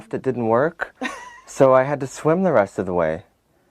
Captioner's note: laughs